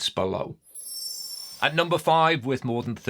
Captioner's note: screen twinkling